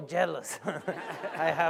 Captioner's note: laughter